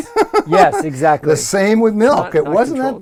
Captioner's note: laugh